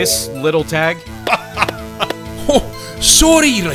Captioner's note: laughing